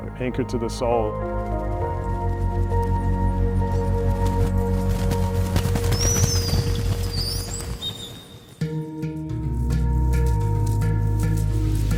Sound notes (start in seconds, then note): 1.5 upbeat music continues; 5.2 flock fluttering; 8.6 gentle music